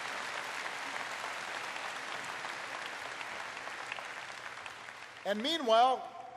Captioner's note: applause